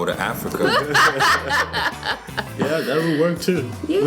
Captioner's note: both laughing